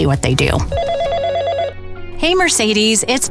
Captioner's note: phone ringing